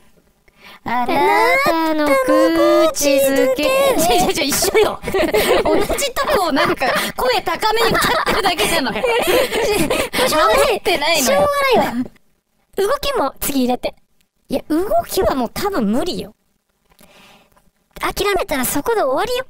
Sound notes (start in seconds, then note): 4.8 laughing